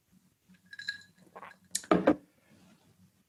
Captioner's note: ice cubes clinking